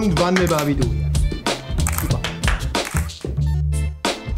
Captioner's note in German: Kameraklicken